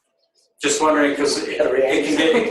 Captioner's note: panelists laughing